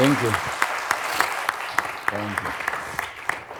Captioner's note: attendees applauding